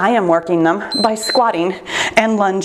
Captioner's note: timer beeps